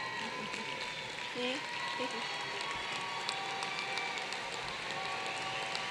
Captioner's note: applause